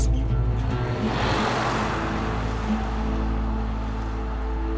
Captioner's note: car noise